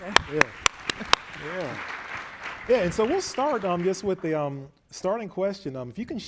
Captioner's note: applause